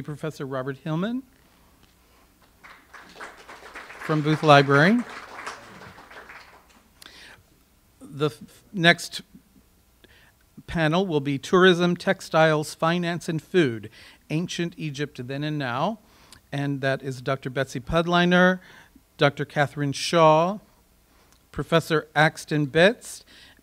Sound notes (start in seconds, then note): 5.3 audience applause